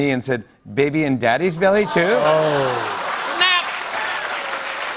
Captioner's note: laughter; applause